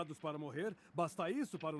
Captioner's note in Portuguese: none